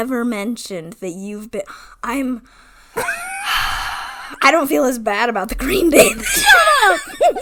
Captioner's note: laughs